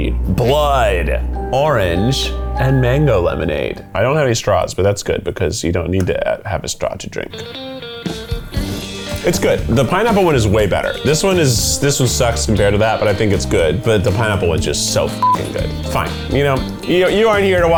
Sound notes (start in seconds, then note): 7.9 upbeat country rock music; 15.2 beep